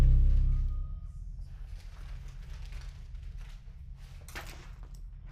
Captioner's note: bag rustling